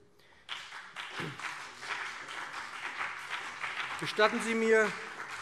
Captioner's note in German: Beifall BÜNDNIS 90/DIE GRÜNEN und CDU